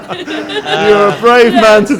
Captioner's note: laughter